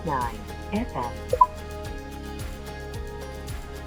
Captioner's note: electronic Voice; instrument panel beeps; upbeat music